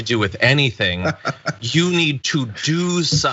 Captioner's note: laugh